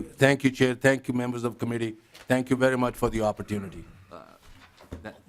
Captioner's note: laughing